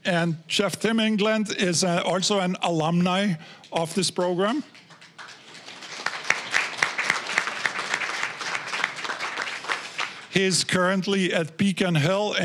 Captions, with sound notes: and Chef Tim England is also an alumni of this program. (applause) He's currently at Beacon Hill,